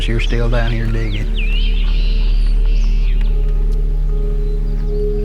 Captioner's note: birds chirping